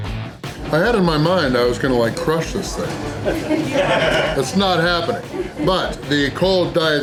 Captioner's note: laughter